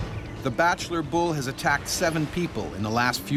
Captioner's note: voiceover